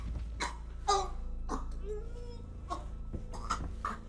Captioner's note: Cricket gasping